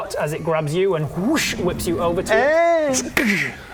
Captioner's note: whoosh